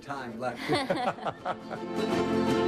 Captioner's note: laughs; upbeat music